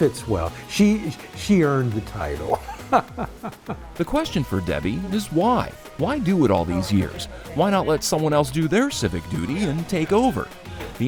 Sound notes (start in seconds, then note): 2.4 person laughing